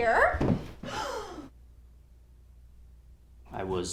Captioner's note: gasps